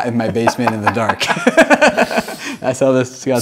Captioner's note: laughing